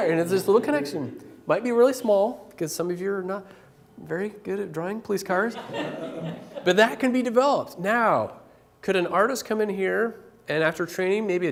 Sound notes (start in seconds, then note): 5.5 laughter